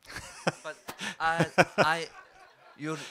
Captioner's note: laugh